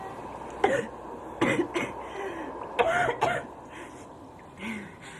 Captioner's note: Pat coughs